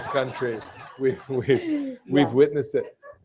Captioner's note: laughter